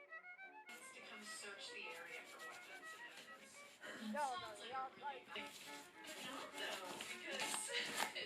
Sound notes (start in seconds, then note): 0.6 a podcast is playing softly in the distance